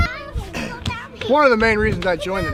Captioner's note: children playing